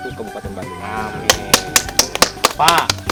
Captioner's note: applause